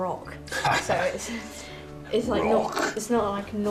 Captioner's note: laughs